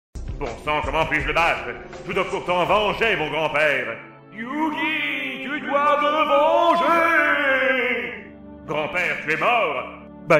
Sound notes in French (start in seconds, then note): 0.2 Yu-Gi, voix grave intérieure; 4.2 voix fantômatique hors champ